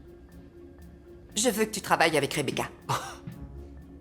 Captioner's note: scoffs